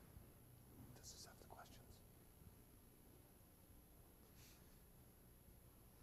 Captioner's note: whisper